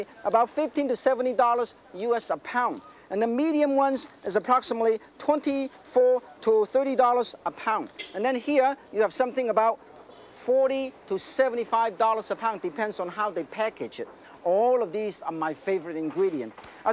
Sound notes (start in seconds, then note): none